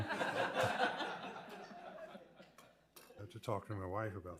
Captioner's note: people laughing